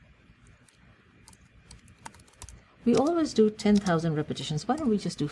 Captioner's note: pause